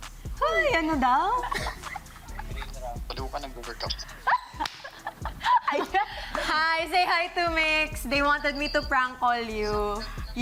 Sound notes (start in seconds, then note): 4.1 laughs